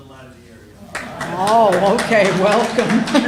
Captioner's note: applause